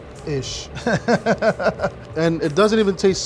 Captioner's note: laughing